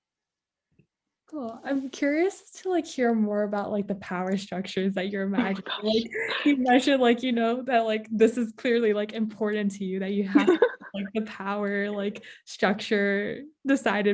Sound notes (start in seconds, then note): 5.4 laughs